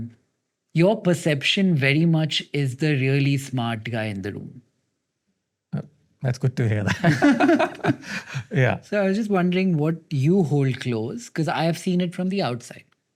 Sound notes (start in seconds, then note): 6.8 both chuckling